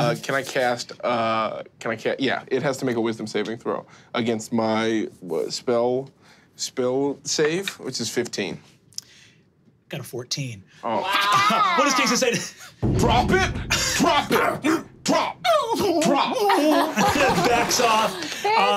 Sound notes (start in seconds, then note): 14.2 growls; 15.4 whimpers